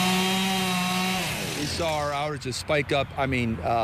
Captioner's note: chainsaws nat